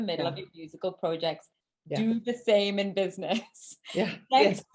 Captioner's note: chuckles